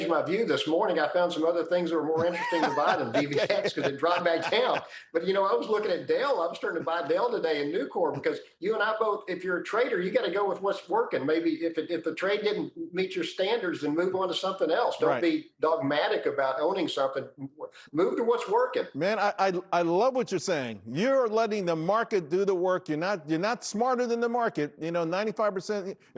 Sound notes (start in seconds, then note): 8.1 laughter